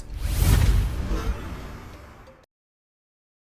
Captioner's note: air swooshes